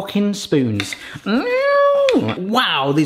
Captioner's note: mimics guitar sounds